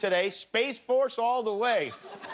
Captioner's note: laughter